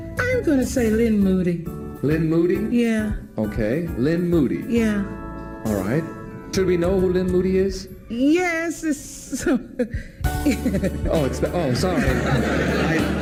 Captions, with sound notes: I'm gonna say Lynne Moody. -Lynne Moody. -Yeah. -Okay. Lynne Moody. -Yeah. Alright. Should we know who Lynne Moody is? Yes. (laughter) Oh I'm sorry. (audience laughter)